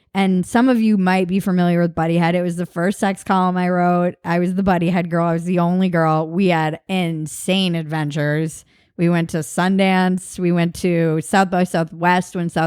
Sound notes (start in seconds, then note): none